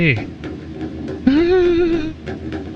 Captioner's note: uncertain whimper